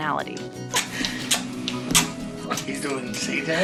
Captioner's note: kissing noises